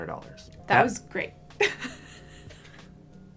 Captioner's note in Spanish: risas